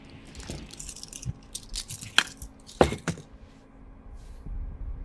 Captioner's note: handcuffs clanking